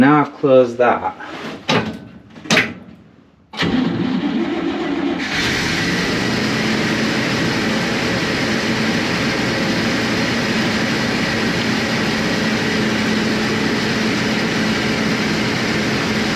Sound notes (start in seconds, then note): 5.5 engine starts